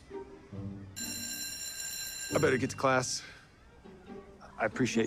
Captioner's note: bell ringing